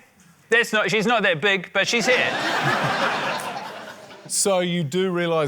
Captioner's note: laughter